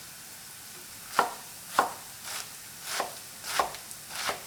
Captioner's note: knife chopping